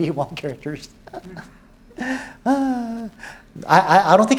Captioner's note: laughs